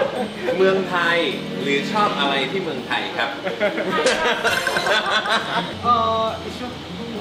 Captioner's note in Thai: เสียงหัวเราะ